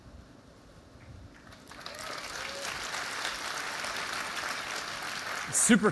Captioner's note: applause